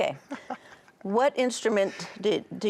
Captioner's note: laughs